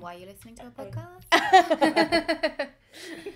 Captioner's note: laugher